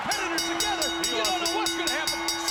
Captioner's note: bell ringing